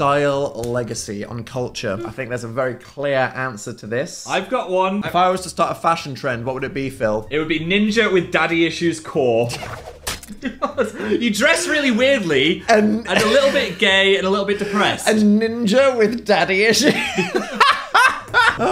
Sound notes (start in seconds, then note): 10.2 both laughing; 16.7 Dan laughing